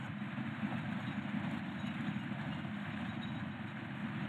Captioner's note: engine rumbling